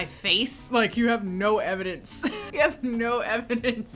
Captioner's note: laughs